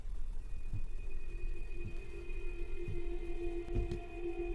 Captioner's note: footsteps moving slowly